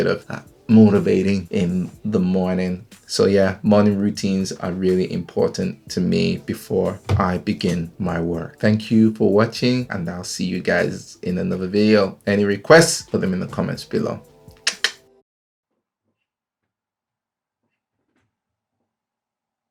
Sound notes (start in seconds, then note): 14.5 clicks